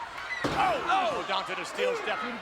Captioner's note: head thuds